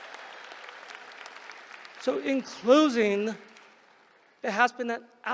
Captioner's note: applause